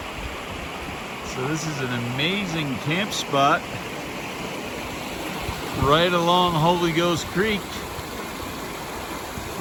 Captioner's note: louder water rushing noises